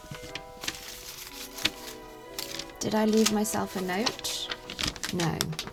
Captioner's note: paper rustling